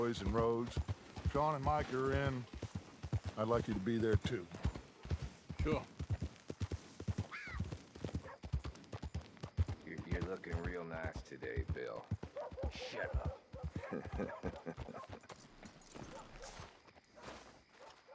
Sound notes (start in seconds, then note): 13.6 laughs